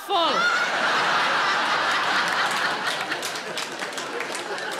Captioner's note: audience laughing